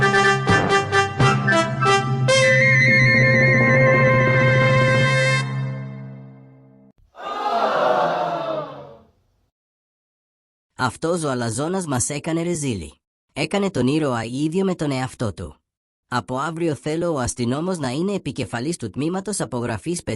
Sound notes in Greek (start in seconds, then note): 8.8 Επιφωνήματα απογοήτευσης